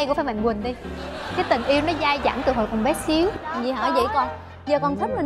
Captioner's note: laughing